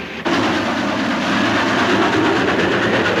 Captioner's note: train roars